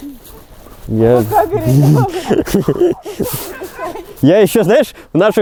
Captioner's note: laughing